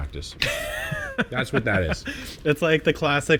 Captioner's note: laughs